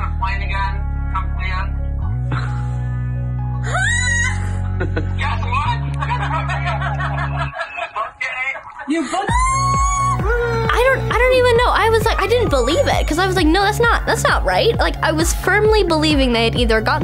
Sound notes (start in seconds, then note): 3.5 screaming; 4.5 laughing; 9.3 screaming